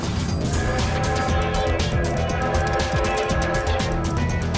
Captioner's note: train horn